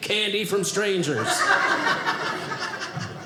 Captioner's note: audience laughing